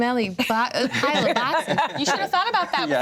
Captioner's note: everyone laughs